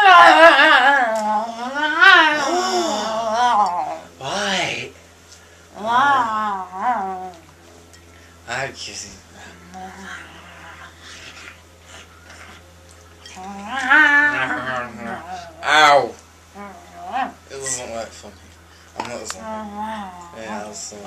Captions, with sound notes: [Nom nom nom] Oh, right! Ow! It doesn't work for me. I'm not a zombie. It doesn't work for me. I'm not a zombie.